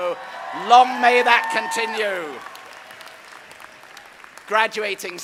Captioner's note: audience cheering; audience applauding